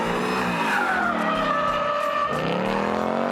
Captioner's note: engine roaring; tires screeching; engine roaring